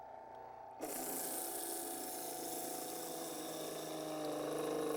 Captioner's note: juicer humming